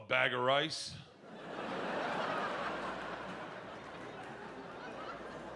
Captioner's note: audience laughing